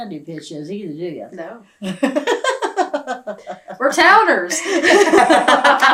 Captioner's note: laughs